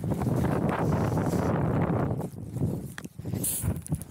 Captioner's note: wind